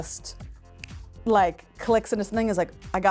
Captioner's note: fingers snapping